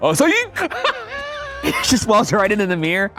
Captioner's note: laughing